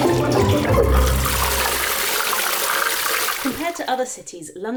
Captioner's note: unbearable crescendo of water sounds; flusssshhhhhh